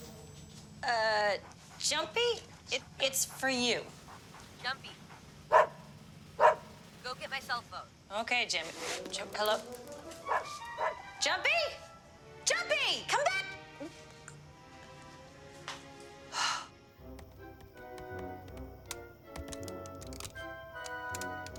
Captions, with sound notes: Ah, Jumpy it, it's for you. - Jumpy. (Jumpy barking) Go get my cell phone. - Okay Jimmy, hello? (Jumpy barking) Jumpy? Jumpy, come back. (sighing) (soft expectant music)